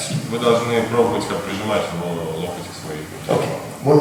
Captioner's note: speaking in a foreign language